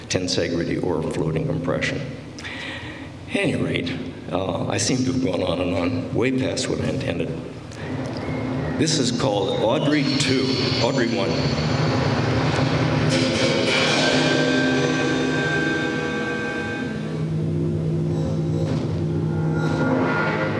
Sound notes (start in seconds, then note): 13.4 sound of metal ringing